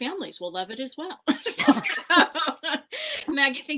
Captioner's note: laughter